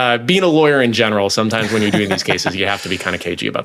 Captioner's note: laughs